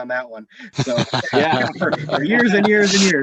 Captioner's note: laughing